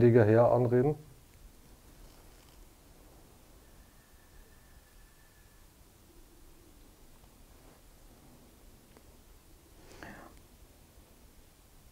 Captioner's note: silence in the background